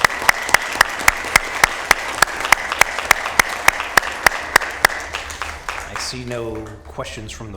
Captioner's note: applause